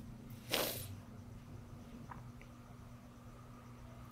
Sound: sniffling

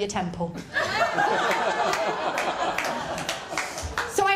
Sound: laughter

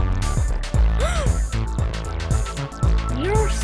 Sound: gasps

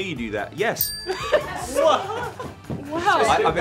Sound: bell dings

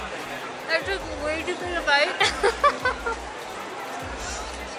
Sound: laughter

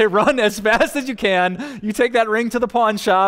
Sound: pastor: Laughter

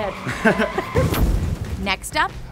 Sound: tires screeching

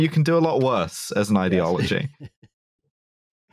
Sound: laughs

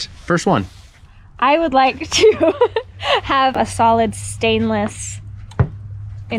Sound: laughs

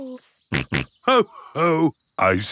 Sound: snorts

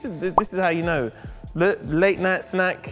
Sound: pop

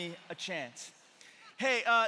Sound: congregation laughing

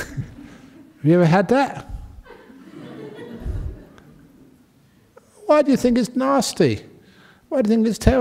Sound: laughter

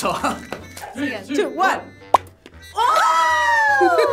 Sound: toy pops

